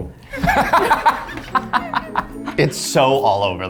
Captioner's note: laughs